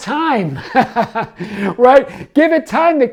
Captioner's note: laughs